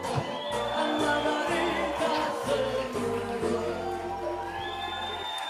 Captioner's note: audience cheering and applauding